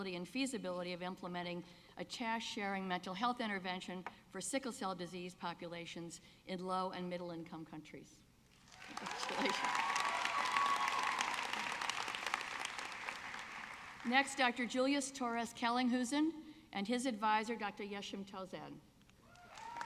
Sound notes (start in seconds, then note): 11.4 audience clapping; 19.3 audience clapping